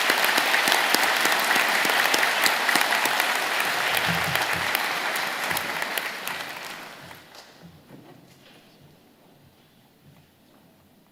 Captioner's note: applause